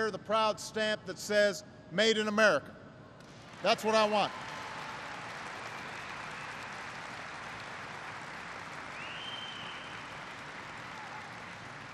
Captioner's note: applause